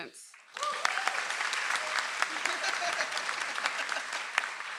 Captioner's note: audience applauds